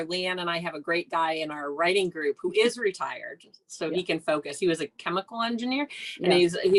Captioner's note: none